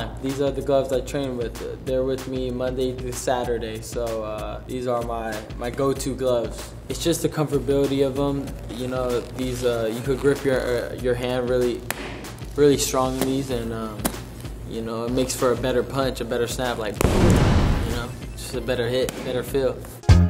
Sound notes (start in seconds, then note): 17.0 explosion; 20.0 upbeat music